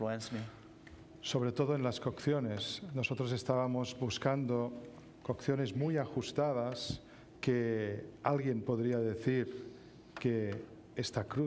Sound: speaking spanish

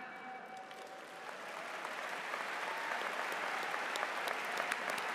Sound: audience applauds

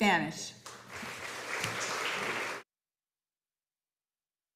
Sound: audience applauding

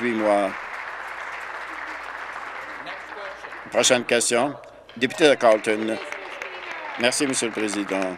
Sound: applause

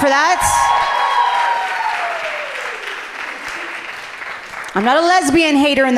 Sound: audience cheering loudly

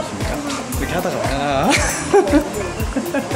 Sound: chuckle

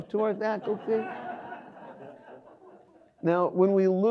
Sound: audience laughs

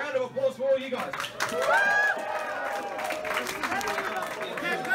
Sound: crowd; claps and cheers

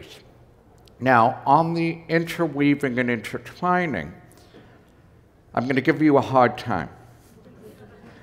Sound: laughter

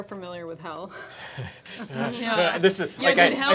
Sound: laughing

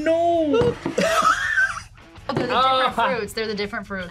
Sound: laughs

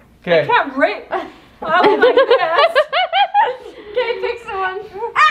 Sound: laughing

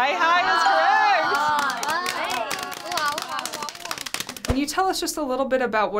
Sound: all clapping

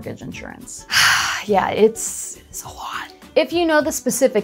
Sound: sighing

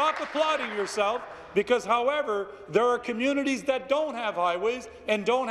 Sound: some Applause

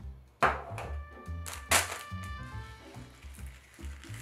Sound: plastic bag rustling

